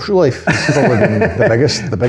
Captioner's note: laughing